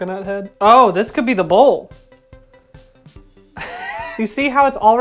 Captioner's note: cracking up